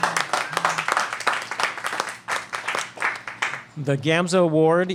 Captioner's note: applause